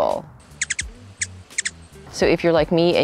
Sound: bird chirping

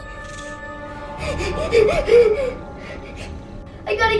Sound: ominous whispering; gasps

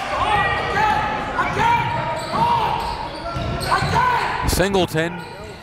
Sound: coaches and players yelling

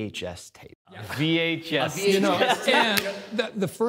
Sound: laughs

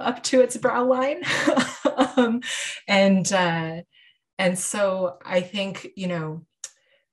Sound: chuckling

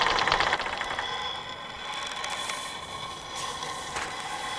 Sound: gentle terracotta raking

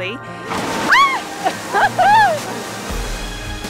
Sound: screams

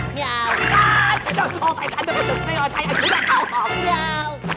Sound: meowing, screaming; grumbling, screaming; meowing

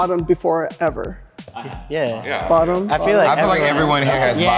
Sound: group affirming

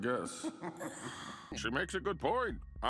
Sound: laughing menacingly; Harley groans

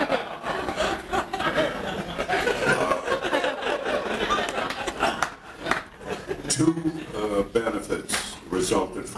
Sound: audience laughing

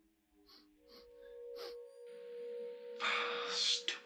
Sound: sniffing

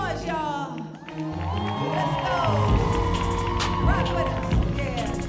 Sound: audience cheering

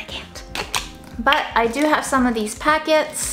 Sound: lid snapping

